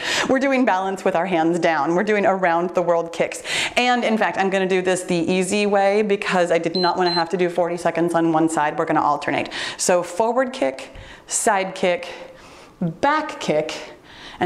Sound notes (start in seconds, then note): 6.7 timer beeps